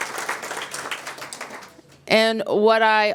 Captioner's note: applause